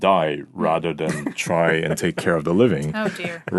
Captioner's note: laughing